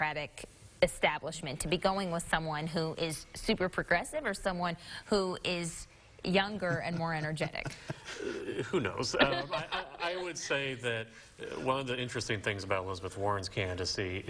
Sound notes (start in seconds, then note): 6.6 chuckling; 8.8 laughing